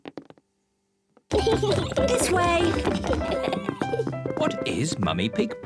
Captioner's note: kids giggling